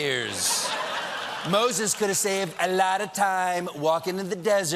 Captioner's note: laughter